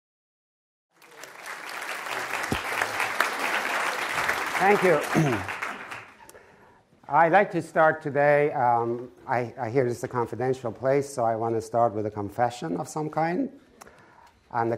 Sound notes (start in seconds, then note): 0.9 audience applauding; 5.0 clears throat